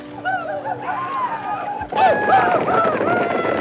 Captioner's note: Apaches howl